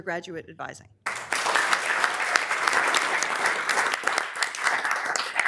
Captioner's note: members applauding